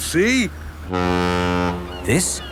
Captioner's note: ferry horn blows; laughing